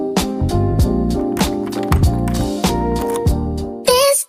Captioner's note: sounds of keys in the lock